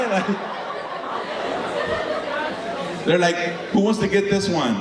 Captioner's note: audience laughing